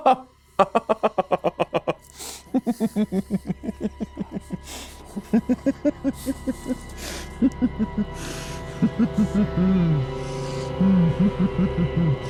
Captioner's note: maniacal laughter